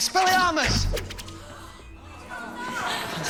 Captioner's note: students gasp